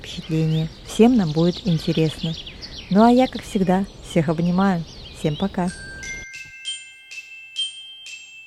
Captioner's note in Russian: колокольчик